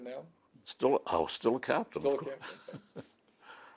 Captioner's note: laughs